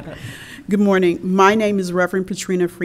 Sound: laughter

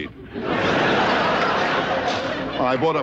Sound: audience laughing

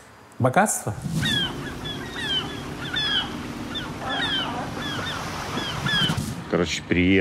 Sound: engine sounds and seagull cries

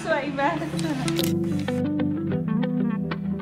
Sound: camera click; light music

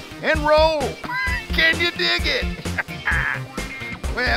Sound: laughs

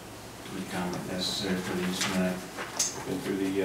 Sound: murmurs

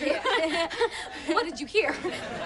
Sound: laughs

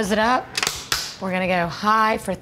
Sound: snaps

